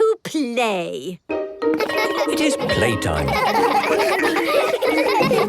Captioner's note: laughter